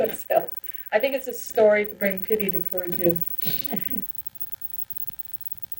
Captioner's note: laughs; laughs